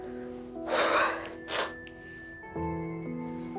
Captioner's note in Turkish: Bildirim Sesi